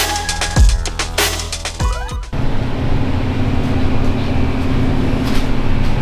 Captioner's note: engine Revving